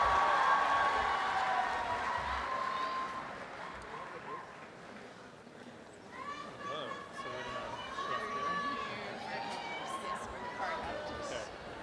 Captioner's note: cheering and applause; crowd murmurs